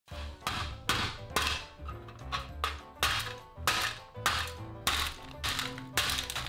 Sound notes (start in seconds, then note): 0.1 hammering; 0.1 banjo music; 3.3 hammering